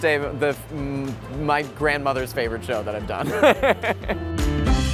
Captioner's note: laughs; upbeat music